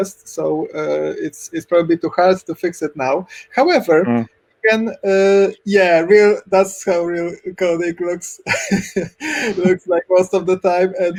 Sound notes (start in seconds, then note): 8.4 laughs